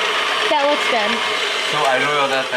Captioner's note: whirring continues